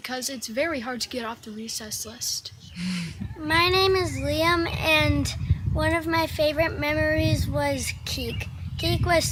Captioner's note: audience chattering